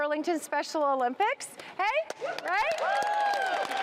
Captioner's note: cheering